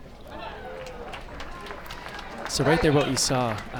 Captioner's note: crowd applauds